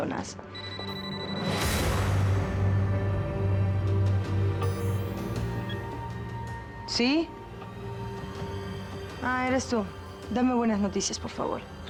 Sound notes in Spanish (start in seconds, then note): 0.5 suena el celular